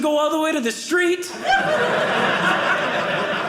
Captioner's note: audience laughing